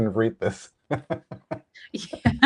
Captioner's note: laughs